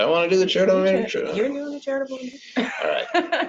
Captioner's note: laughs